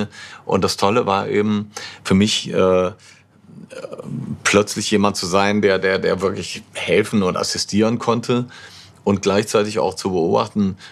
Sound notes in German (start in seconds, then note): none